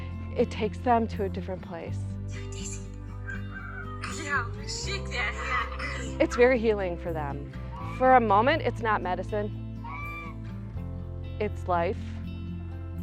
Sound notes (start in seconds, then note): 3.2 rooster crowing